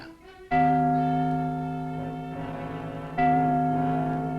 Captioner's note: bell tolling